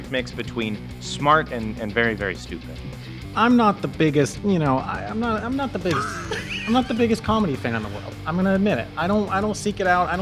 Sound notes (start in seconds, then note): 5.8 crack up